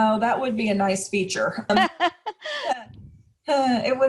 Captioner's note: laughing